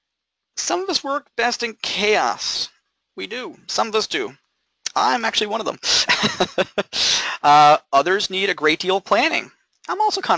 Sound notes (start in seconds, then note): 5.8 laughing